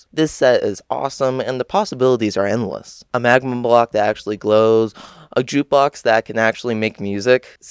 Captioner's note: gasp